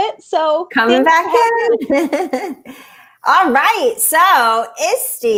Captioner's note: chuckling